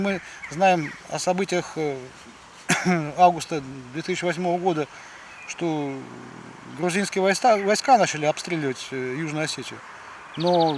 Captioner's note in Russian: откашливается